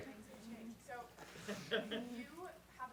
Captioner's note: voiceover